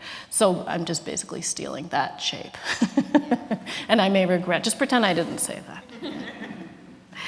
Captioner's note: laughs